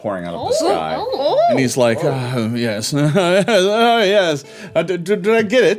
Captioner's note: laughing